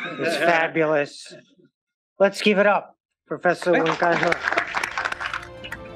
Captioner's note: applause